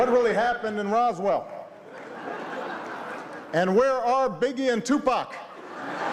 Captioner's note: laughter